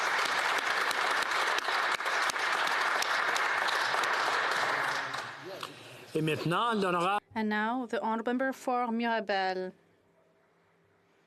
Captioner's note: applause; speaking French